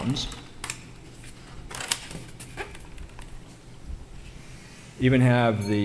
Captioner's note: paper crackling